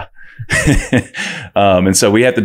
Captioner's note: laughs